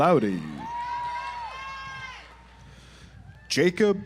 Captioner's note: audience applauds